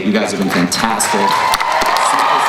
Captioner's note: crowd cheering